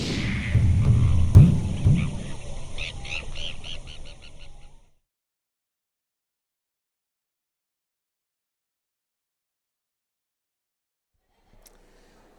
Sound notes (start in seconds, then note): 3.0 bird tweeting